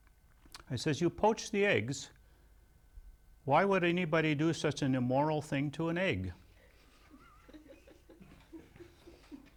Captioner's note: laughs